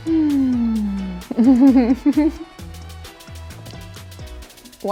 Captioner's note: sighing happily